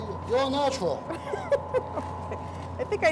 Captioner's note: laughter